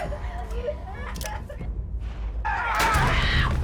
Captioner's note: crying